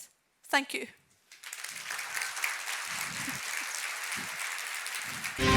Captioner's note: audience claps